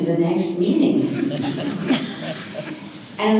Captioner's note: audience laughter